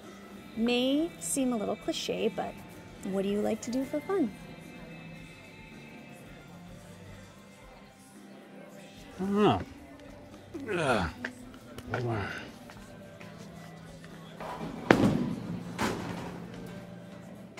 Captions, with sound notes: May seem a little cliche, but what do you like to do for fun? - I don't know. (Brett grunts) (ball thumps)